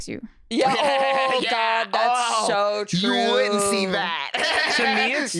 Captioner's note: laughs